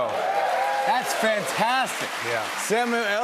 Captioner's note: cheers and applause